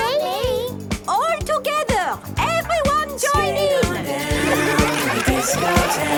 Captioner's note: laughter